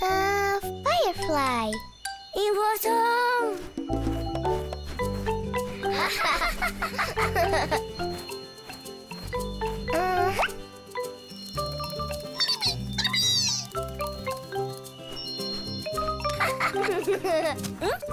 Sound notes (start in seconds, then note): 2.5 brown haired duck speaks in foreign language; 5.9 both laughing; 12.5 firefly chirping; 16.6 both birds laughing; 17.9 both grunt